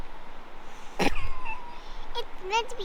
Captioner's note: laughing at myself